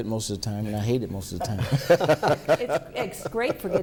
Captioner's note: laughter